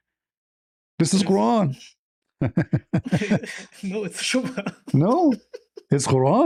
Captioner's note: laughter